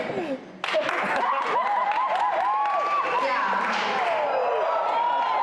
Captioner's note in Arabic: هتاف وتصفيق جامح